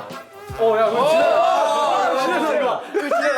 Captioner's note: a big cheer